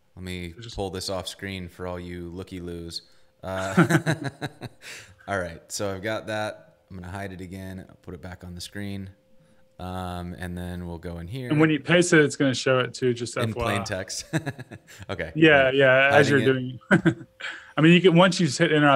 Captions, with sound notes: Let me pull this off-screen for all you looky-loos. (both laugh) All right, so I've got that. I'm gonna hide it again. I'll put it back on the screen. And then we'll go in here-- - And when you paste it, it's gonna show it too, just FYI. - In plain text. (laughs) Okay. - Yeah, yeah. As you're doing it. - Hiding it. - I mean once you just hit Enter,